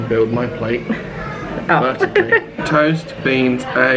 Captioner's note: laughing